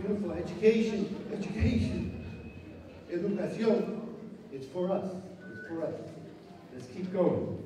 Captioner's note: non-english speech